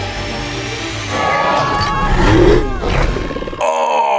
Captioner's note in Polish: dramatyczna muzyka; krzyki bachorów